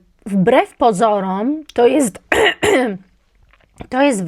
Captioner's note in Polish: kaszel